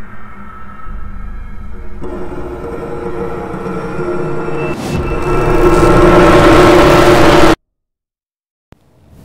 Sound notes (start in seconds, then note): 1.6 ambience Intensifies; 4.8 mind Control Sounds